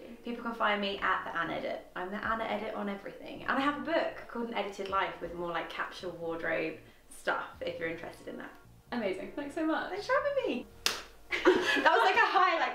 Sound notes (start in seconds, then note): 11.4 laughing